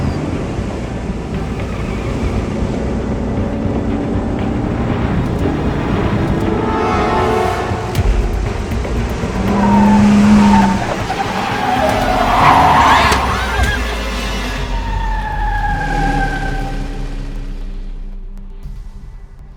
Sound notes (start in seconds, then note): 12.4 Alejandra screams